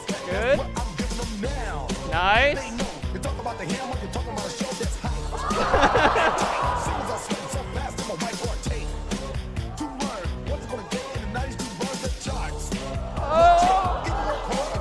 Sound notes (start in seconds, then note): 4.4 audience gasping; 5.4 laughter; 8.3 singing; 14.5 singing